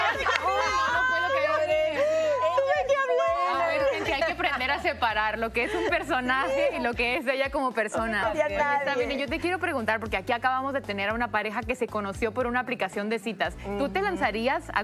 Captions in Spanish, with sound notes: CLARO. AGARRO, ME BAJO, DE REPENTE, TAXI. TAXI. >> NO TE QUERÍAN. >> (RISAS). >> HAY QUE APRENDER A SEPARAR LO QUE ES UN PERSONAJE Y LO QUE ES ELLA COMO PERSONA.